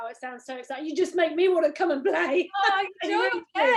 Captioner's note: laughs